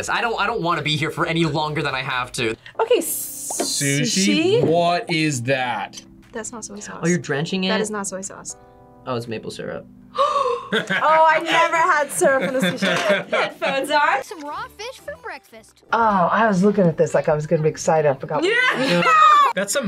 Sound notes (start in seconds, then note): 10.1 gasps; 18.6 laughs